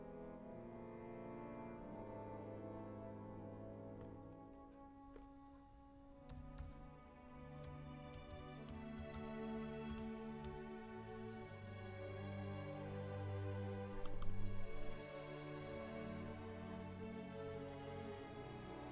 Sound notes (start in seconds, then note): 5.4 typing